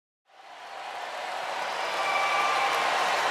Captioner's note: audience applauding